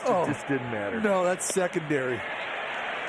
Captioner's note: laughter